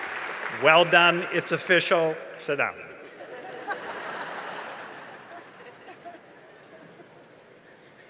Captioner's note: laughter